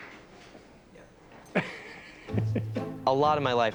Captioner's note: laughs